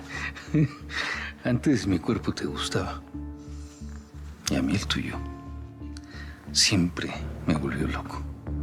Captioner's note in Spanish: risas